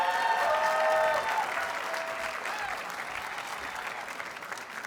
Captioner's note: audience cheers and applauds